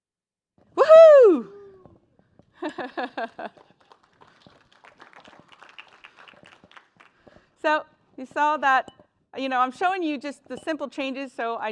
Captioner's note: applause